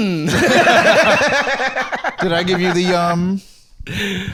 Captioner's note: all laughing